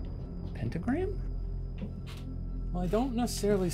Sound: wood floors creaking

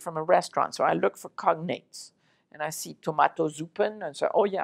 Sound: german

